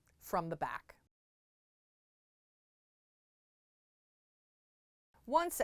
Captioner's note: no Sound Present